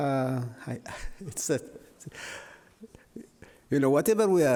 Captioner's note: laughs